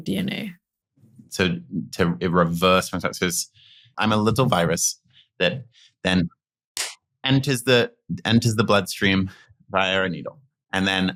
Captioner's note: slap